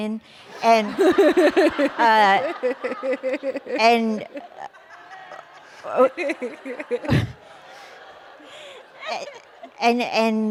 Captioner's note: laughter